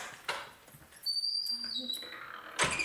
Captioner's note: door clicks; door creaking; door bangs